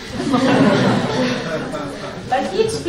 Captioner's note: laughter